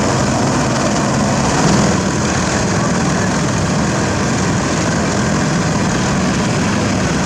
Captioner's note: engine